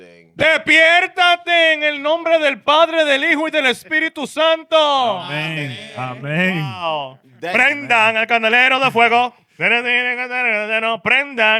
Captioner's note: speaking In Foreign Language